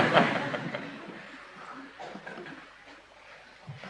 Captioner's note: laughter